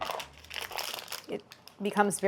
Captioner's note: crunching